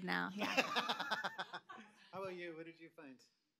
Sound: chuckles

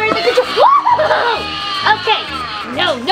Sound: scarecrow screaming

